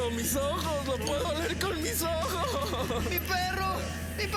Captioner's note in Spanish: sollozos